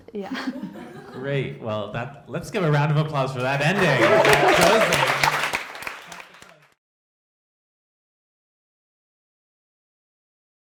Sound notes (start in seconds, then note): 0.3 laughs; 3.3 all applauding